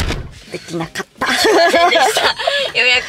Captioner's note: Laughter